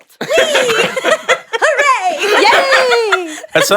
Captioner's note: laughs